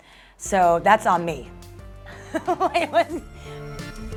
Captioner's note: laughs